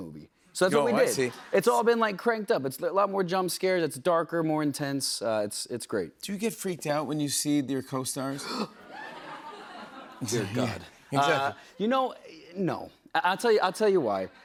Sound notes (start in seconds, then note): 8.4 gasps; 8.7 laughter